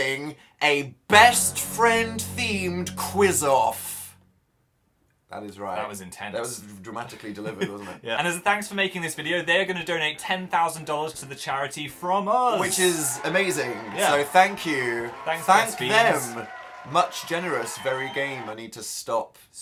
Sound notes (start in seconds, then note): 7.3 giggles